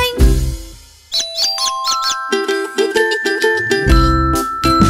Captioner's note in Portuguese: som de pintinho; Som de galinhazinha; Som de pintinho